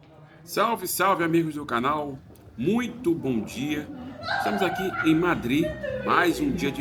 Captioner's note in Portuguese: risadas